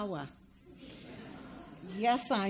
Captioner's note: audience laughs